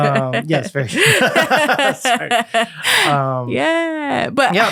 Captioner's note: both laughing